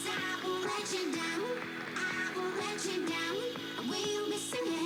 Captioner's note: applause